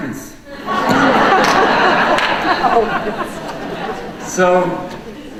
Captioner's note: audience laughing